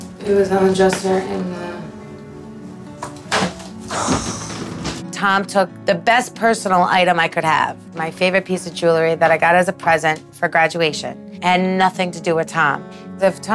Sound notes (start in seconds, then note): 3.8 sighs